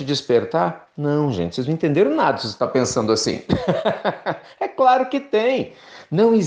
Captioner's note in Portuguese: risos